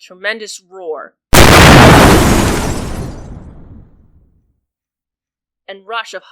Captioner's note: explosion and shattering glass